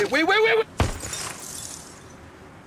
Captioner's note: glass shattering; gunshot